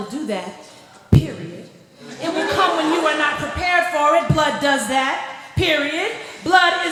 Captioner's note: laughter